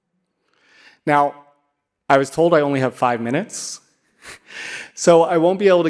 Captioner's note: laughs